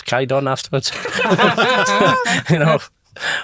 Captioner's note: all laugh